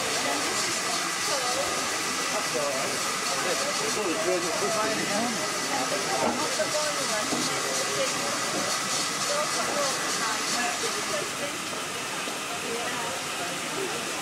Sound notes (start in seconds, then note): 2.0 train releases steam